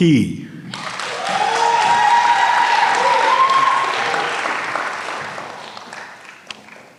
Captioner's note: applause